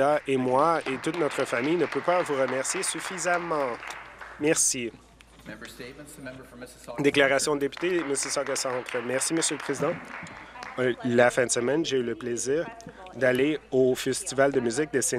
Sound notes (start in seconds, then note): 8.6 applause